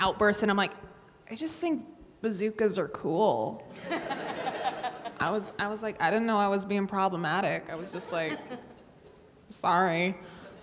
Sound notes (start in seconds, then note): 3.8 audience laughing